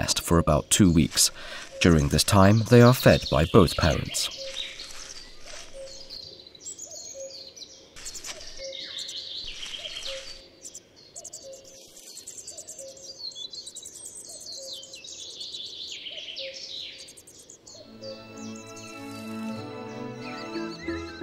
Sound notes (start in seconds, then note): 4.3 sounds of nature